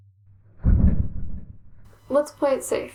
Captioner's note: rumble!